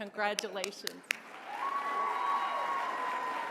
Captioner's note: applause